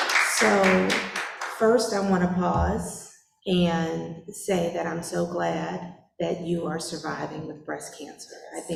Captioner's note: applause